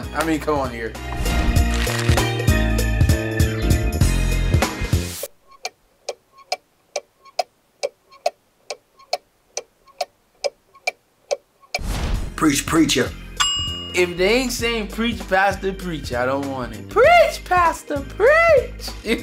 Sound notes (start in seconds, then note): 6.0 ticking sound; 13.3 bell sound